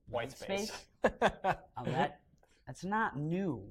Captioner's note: laughter